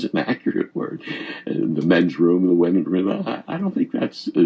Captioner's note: chuckles